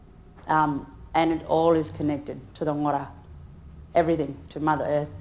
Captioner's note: speaks in foreign language